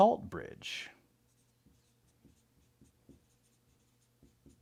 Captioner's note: pen scratching